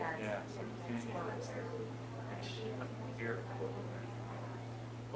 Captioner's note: audience chattering